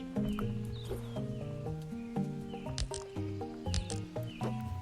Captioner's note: none